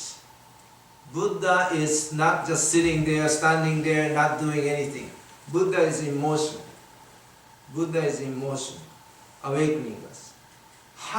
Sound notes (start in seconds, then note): none